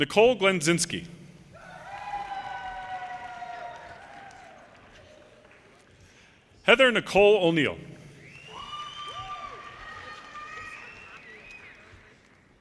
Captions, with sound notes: Nicole Glenzinsky. (audience cheers and applause) Heather Nicole O'Neill, (audience cheers and applause)